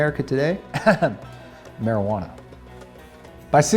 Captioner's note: laughs